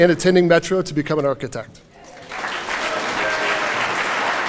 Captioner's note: applause